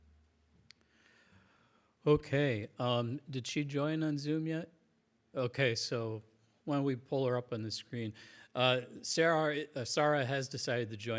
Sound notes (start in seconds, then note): none